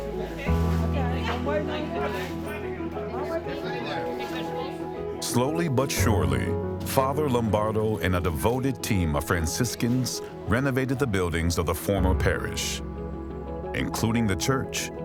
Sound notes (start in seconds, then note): 1.7 people chattering